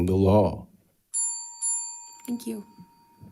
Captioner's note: bell dinging